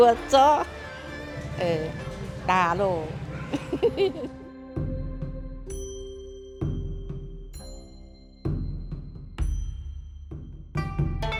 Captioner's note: speaking in dialect